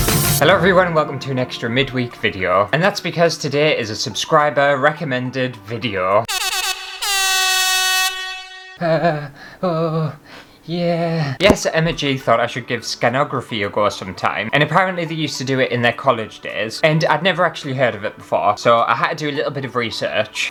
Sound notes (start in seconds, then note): 0.0 intro Music; 6.2 air Horn!!!